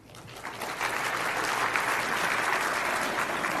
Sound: applause

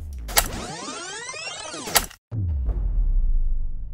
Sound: tape rewinding

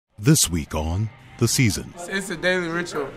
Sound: voiceover

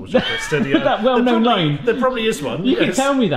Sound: laughs

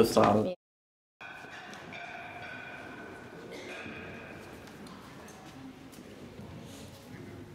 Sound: crowd noises and clanking dishes

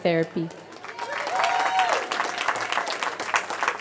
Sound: cheering

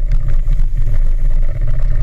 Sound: spinning reel

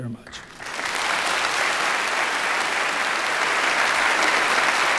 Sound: congregations clapping

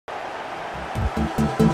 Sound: Liverpool's crowd cheering

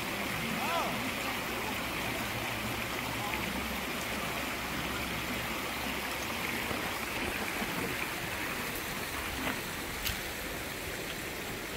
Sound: rushing water

